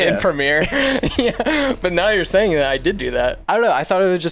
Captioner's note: laughs